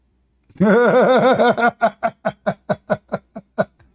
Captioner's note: Ketawa